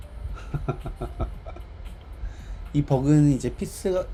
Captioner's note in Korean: 웃음